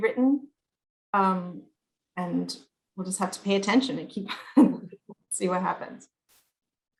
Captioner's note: chuckles